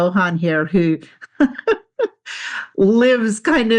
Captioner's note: laughs